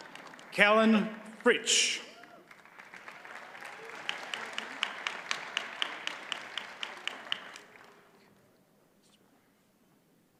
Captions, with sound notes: Callan Fritsch. (audience cheers and applauds)